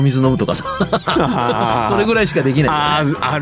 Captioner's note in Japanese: 笑い